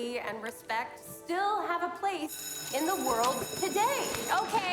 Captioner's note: bell rings